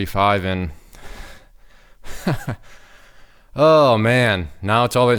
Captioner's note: laughing